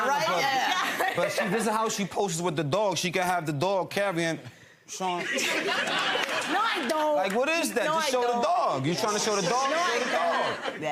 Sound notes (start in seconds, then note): 5.1 audience laughs